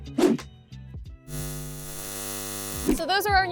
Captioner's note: electricity whirring